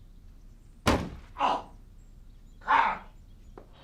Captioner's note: door bangs